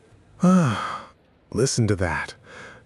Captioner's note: sigh